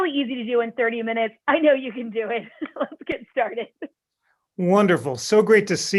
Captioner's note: laughter